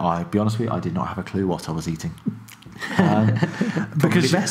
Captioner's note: laughing